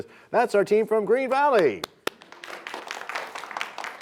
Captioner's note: applause